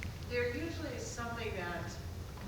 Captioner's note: none